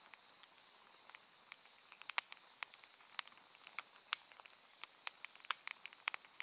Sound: rain sounds, fireplace sounds, wave sounds, water sounds, crickets sounds

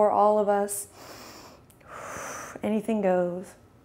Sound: quick inhale and exhale

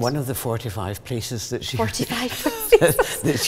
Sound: laughs

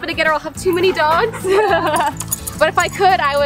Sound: both laughing

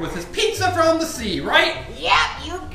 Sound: voiceover

